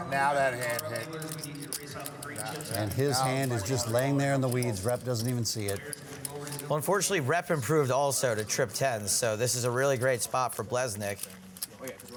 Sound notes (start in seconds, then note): 2.0 chattering